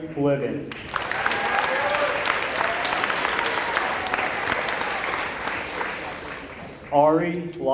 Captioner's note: applause